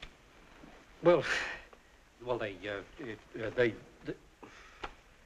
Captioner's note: stuttering softly